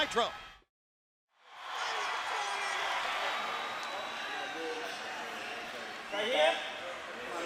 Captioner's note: crowd cheering